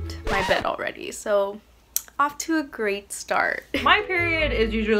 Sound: record scratches

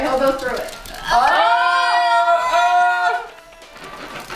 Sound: group shouts

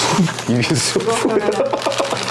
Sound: laughing

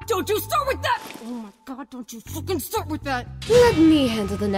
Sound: grits teeth

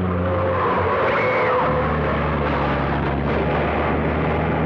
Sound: tires screech; Gwen screams

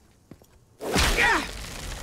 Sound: grunting

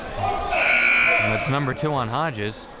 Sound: buzzer

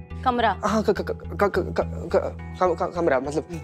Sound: stuttering

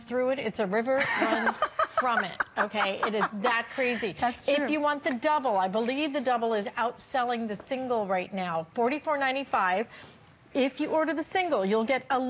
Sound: laughter

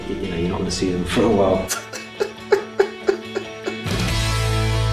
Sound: mock cries

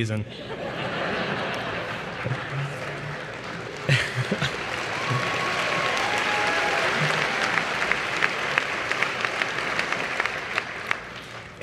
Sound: applause

